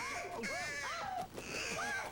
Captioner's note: gasping; crow cawing